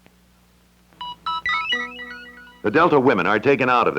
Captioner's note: Electronic audio effects